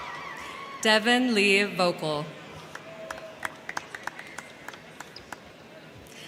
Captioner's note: crowd cheering